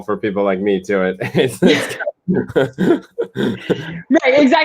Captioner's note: laughter